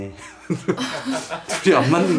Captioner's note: laugh